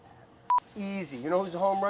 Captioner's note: beeping